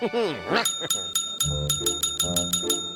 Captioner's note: bell ringing rapidly